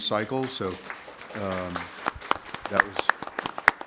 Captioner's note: applause